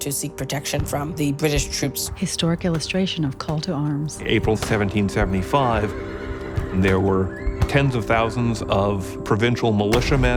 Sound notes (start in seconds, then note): 2.2 distant gunfire